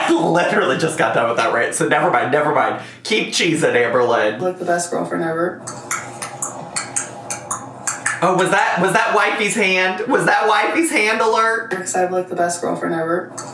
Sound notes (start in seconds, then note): 5.9 clicking her tongue